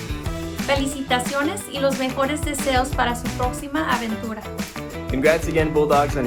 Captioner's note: woman speaking in foreign language